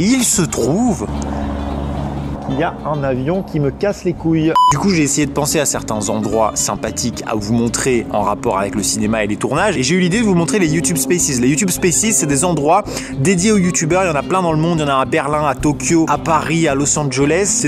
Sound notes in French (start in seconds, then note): 0.7 bruit d'avion en fond